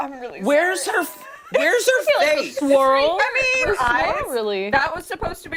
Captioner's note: laughter